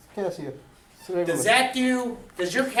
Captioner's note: voiceover